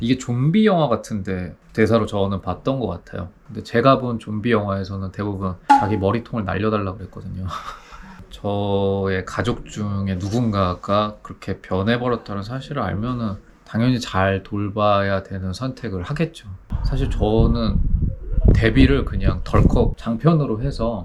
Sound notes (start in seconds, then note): 7.7 gasp